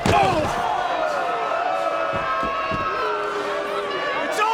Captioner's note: CM Punk grunts